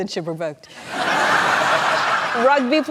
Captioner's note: laughter